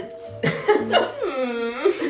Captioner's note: laughs